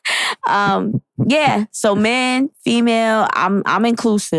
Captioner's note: laughs